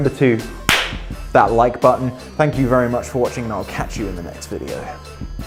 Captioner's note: slap